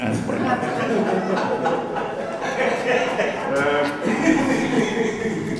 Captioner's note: audience laughing